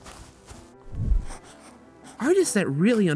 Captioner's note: sketching